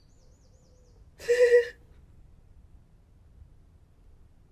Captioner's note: crying